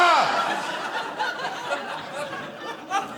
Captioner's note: audience laughing